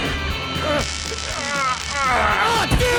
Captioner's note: shouting; zapping